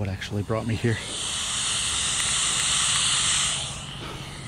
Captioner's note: static